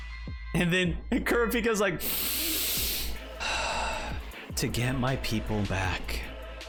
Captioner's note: inhales